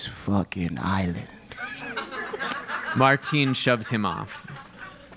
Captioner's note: laugh